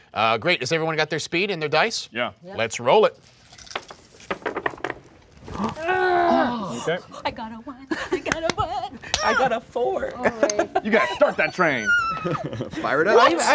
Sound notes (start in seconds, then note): 3.5 dice rolling; 5.4 groaning; 8.2 hands clapping; 11.5 squealing